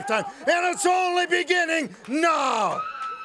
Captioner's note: crowd cheering